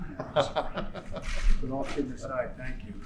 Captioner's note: laughs